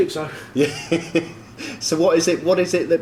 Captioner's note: laughing